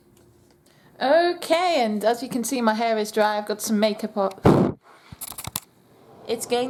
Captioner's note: blows into camera